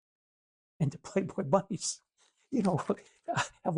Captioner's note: chuckles